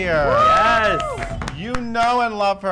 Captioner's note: group applause